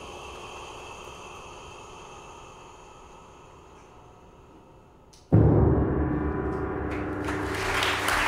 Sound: bell rings; applause

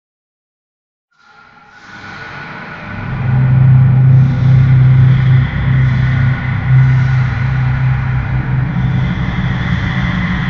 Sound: sound of secret world temple

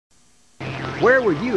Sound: space Sounds

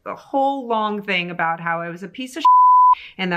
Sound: beep

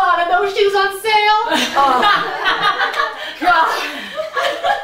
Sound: audience laughing

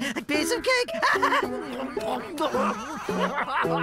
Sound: laughing; chomping; laughter

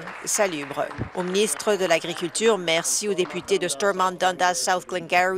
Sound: applause

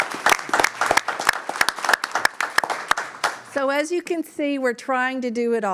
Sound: applause

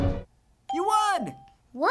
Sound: ding

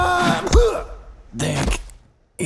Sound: impact

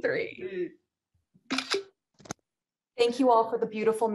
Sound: camera shuttering

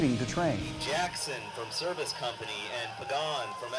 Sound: male speaker announcing on PA

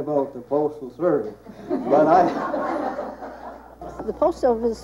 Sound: audience laughing

